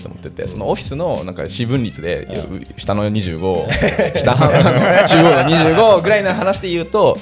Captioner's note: laughs